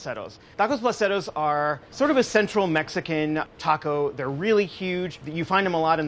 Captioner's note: none